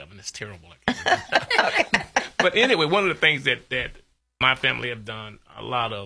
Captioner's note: laughs